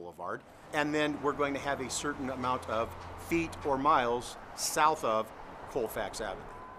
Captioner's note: sounds of vehicles driving on road